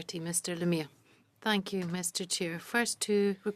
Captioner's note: speaking French